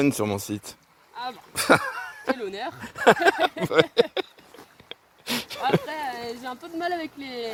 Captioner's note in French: rires